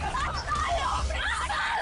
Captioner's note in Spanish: Gritos